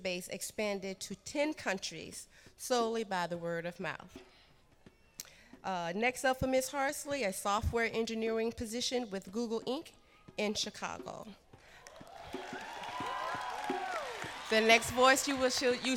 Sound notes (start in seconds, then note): 11.8 cheers and applause